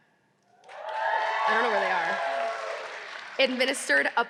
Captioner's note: audience cheering